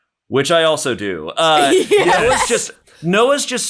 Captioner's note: all laugh